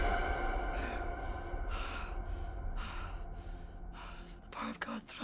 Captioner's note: Father Matthews breathes heavily